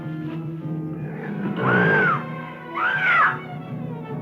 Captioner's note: Lothel screaming